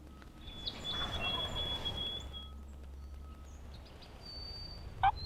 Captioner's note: turkey gobbles